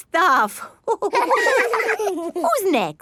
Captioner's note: all laughing